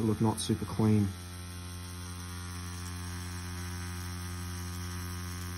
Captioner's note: machine buzzing